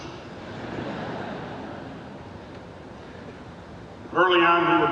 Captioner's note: crowd laughing